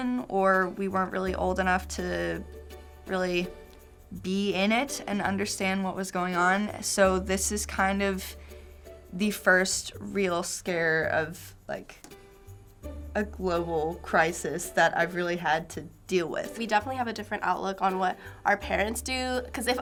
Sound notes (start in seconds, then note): none